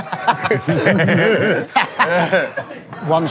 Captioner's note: laughing